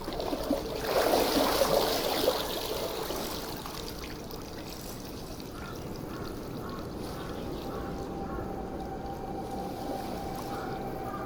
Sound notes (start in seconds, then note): 4.2 sounds of crows and water